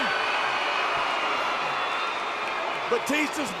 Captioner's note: audience cheering